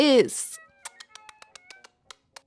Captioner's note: little kisses